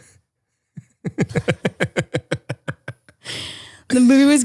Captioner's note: laughs